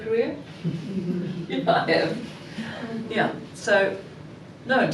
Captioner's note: chuckling